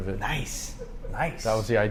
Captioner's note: laughing